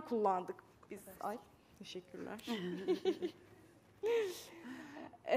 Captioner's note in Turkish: Gülüşmeler